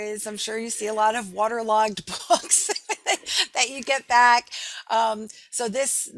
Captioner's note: laughing